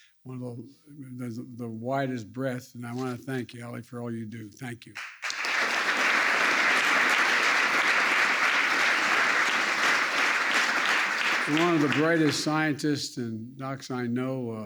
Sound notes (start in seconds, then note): 8.0 applause